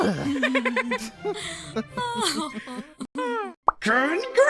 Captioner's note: all laughing